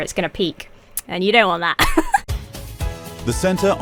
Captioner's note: giggles